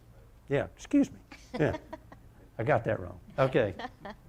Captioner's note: laughter